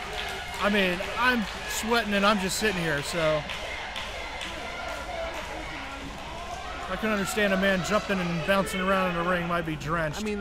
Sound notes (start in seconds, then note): 3.6 crowd yelling